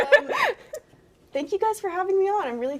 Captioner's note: all laughing